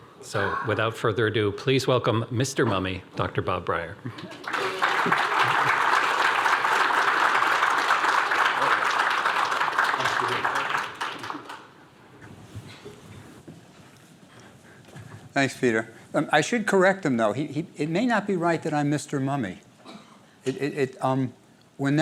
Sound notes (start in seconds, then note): 4.4 applause